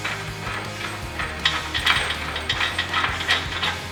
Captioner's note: screwing bolt